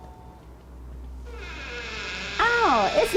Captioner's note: door squeaking